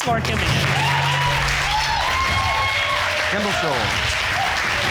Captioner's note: audience cheers